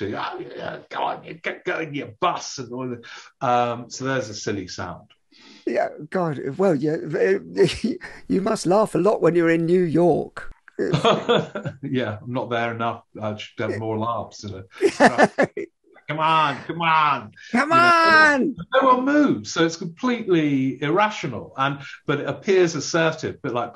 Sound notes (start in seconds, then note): 10.8 laughing; 14.7 laughing